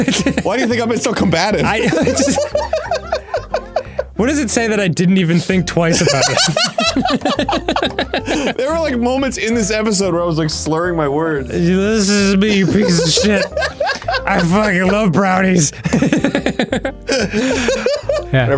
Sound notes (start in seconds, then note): 1.6 both laughing; 5.9 laughing; 5.9 both laughing; 11.8 slurring; 12.4 laughing; 13.8 slurring; 15.2 laughing; 15.8 both laughing